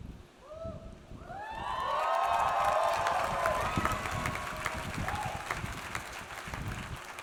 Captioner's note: audience cheers; audience applauds